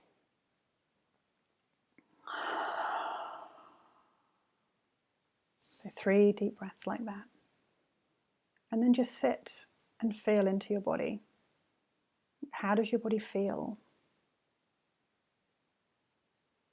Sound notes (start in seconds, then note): 2.2 exhales; 2.2 inhales; 13.9 silence